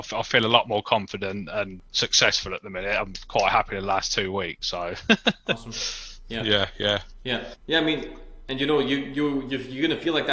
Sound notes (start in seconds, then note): 4.8 laughs